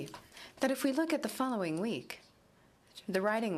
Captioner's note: speaking in french